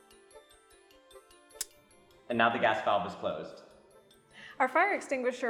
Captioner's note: click